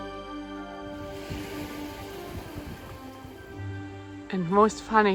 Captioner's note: waves pounding